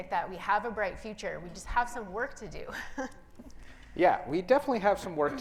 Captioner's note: laughs